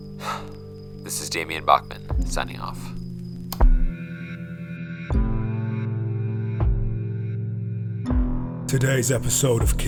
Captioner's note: sigh; recorder clicks off